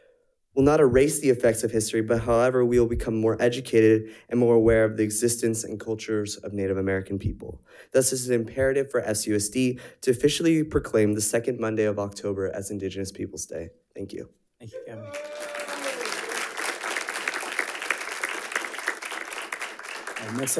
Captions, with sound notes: will not erase the effects of history, but however, we'll become more educated and more aware of the existence and cultures of Native American people. Thus, this is an imperative for FCUSD to officially proclaim the second Monday of October as Indigenous Peoples' Day. Thank you. - Thank you, Gavin. (audience applauding)